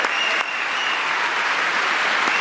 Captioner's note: applause